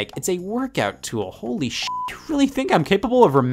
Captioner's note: beep